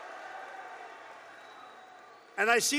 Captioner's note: applause